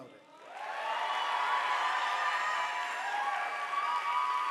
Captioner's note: audience applauding